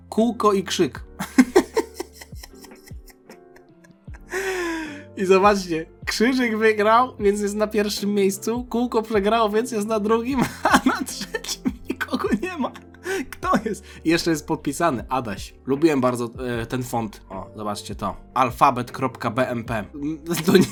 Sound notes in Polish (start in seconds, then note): 1.2 śmiech; 4.8 wciągnięcie powietrza; 10.3 śmiech